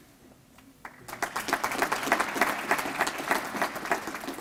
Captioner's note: applause